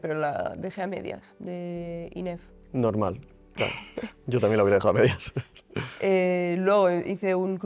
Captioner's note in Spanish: risas